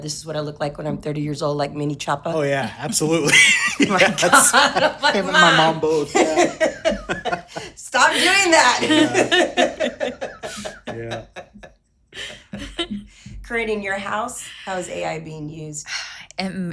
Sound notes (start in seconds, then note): 3.7 laughs; 6.7 group laughing; 9.7 group laughing